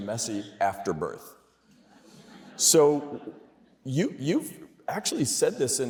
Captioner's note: laughter